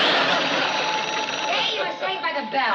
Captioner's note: phone rings